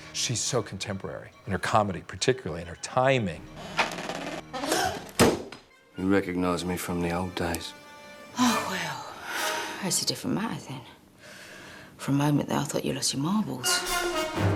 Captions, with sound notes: ...she's so contemporary in her comedy, particularly in her timing. [GASPS] He recognized me from the old days. Oh, well. That's a different matter, then. For a moment there, I thought you'd lost your marbles.